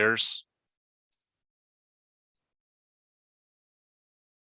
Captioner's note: mouse clicking